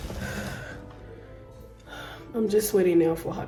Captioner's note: breathes deeply